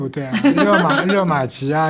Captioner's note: laughter